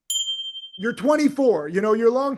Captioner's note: bell dinging